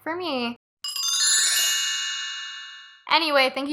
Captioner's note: chimes